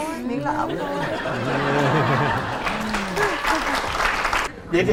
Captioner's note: applause